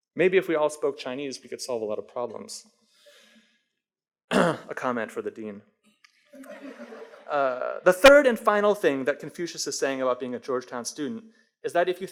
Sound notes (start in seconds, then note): 6.4 audience laughs